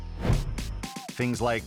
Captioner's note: air whoosh